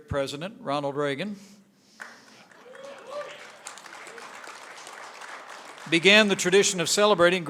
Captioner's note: applause